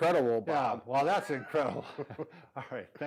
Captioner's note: chuckles